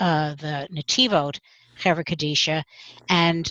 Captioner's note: Hebrew